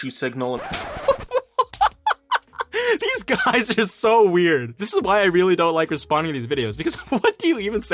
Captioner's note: laugh